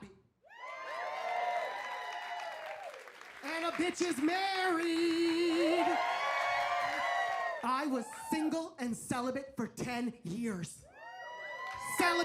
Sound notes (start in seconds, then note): 0.5 audience cheers and applauds; 5.6 audience cheers; 10.9 audience cheers